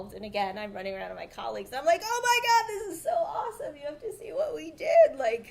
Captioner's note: none